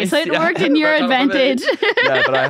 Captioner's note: laughs